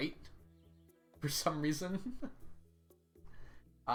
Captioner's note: laughs